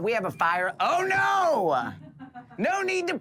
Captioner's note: laughter